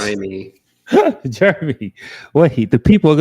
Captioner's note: laughs